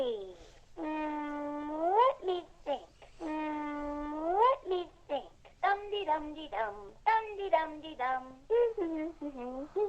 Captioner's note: hums